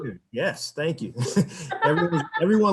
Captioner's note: chuckles